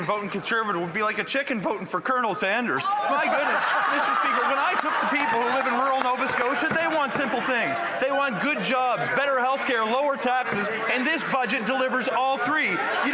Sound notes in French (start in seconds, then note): 0.3 voix de l'interprète